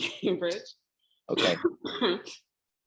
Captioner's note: coughing